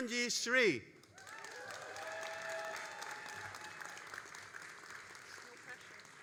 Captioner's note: all applauding and cheering